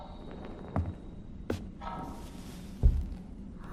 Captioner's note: footsteps